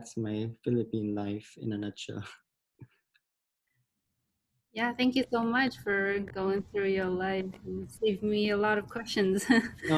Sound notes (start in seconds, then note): 8.7 laughs